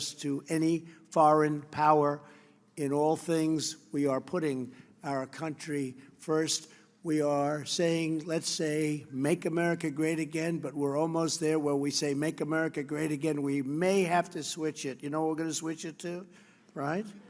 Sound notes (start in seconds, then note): none